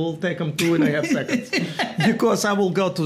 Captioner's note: Gary laughs